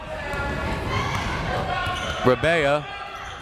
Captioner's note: crowd members shouting